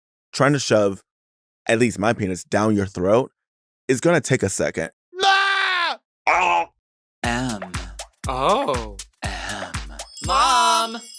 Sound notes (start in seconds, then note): 6.2 Delta guffaws